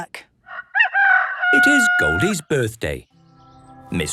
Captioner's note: rooster crowing